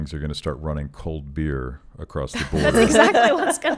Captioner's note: laughing